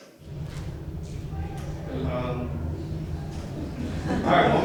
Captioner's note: audience laughs